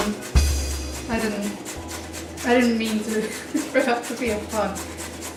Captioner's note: laughs